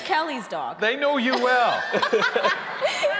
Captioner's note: hosts laughing; audience laughing